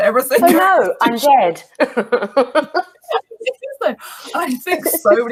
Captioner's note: laughs